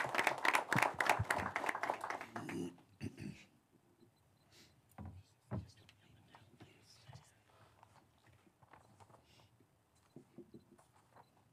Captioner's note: applause